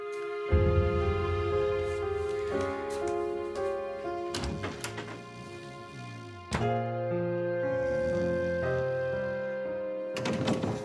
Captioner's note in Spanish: Ronquidos